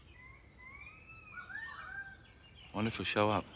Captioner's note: birds chirping